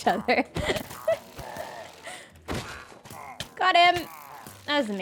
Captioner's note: laughs